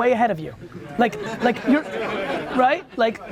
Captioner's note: crowd laughs